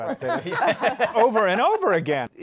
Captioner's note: laughter